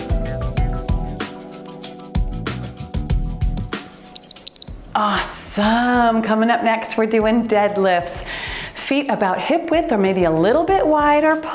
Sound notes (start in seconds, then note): 4.1 timer beeps